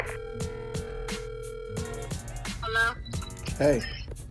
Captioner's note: phone ringing